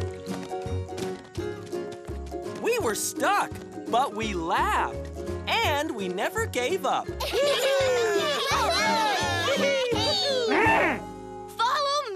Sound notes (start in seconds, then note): 9.7 cheer and laugh; 11.2 trumpets